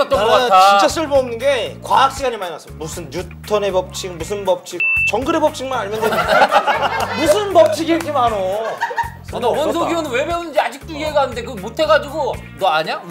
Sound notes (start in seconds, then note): 6.0 laughing